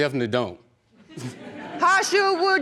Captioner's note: audience laughing